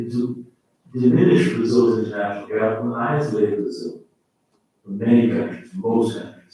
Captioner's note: faintly speaking